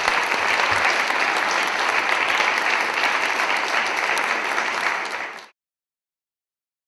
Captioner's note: applause